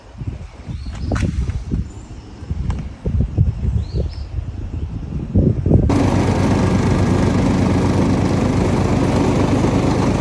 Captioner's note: wind; mower running